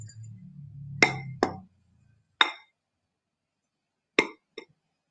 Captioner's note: jar clunks